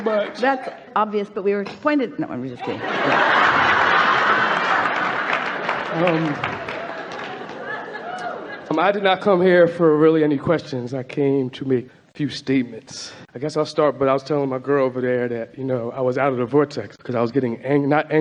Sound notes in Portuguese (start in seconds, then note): 0.0 o convidado está quase chorando enquanto o público continua rindo e gritando; 2.6 O público está rindo e gritando